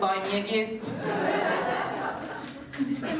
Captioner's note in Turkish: Gülüşmeler